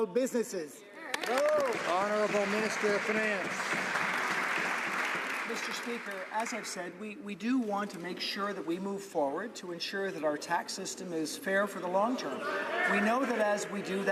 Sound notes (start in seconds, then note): 3.8 some Applause